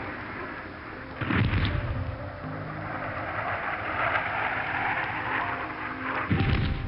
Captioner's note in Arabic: صوت انفجارات